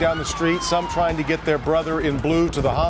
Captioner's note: sirens